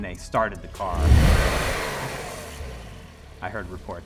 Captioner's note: car engine revving